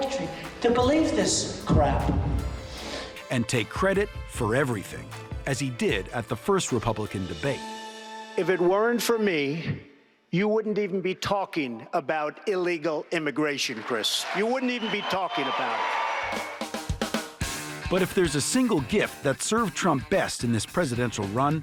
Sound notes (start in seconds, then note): 15.7 cheers and applause